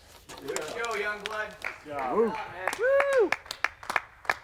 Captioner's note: men applaud